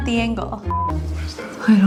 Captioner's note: beep